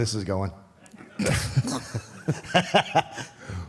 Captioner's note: AJ laughs